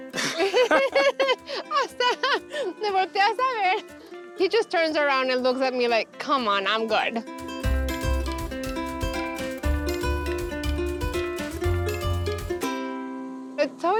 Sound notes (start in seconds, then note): 0.0 both laugh; 1.8 speaking Spanish